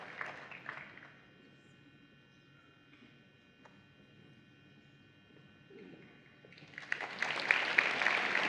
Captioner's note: applause